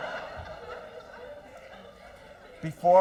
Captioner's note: laughter